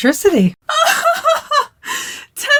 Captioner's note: dying of laughter